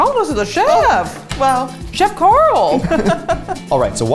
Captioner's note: laughs